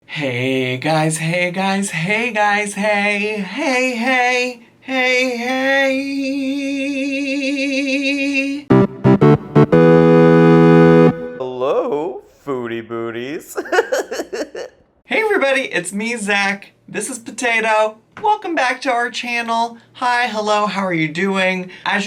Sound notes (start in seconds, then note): 8.6 upbeat electronic music; 13.5 giggling